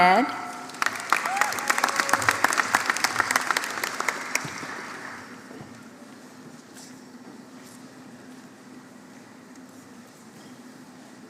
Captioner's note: applause